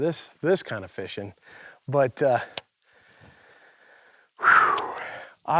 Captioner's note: sighing